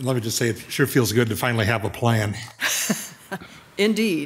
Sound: chuckles

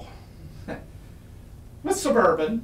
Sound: chuckles

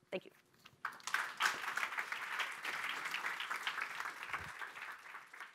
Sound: audience applauding

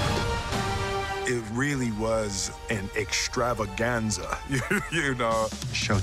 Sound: chuckles

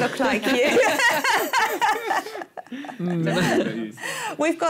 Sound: laughing

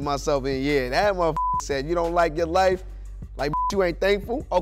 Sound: beep

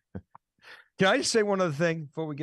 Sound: both laughing

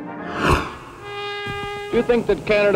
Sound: horn

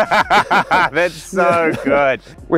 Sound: they laugh

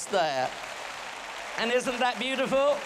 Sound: boisterous applause

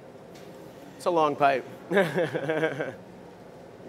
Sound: laughter

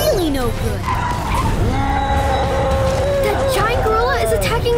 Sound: tires screeching; gorilla roaring

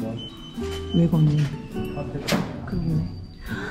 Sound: the door lock cries out that it has no battery after a long time

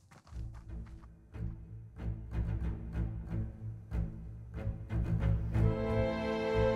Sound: footsteps thumping; suspenseful music

